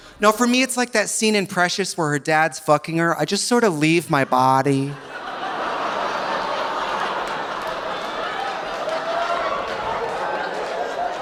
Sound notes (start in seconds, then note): 4.2 audience laughing; 5.0 audience groaning